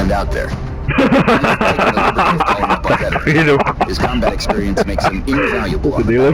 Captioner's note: enormous laughter